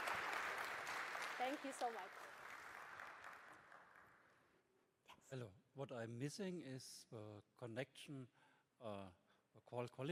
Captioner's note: applause